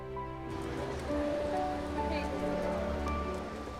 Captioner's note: indistinct chatter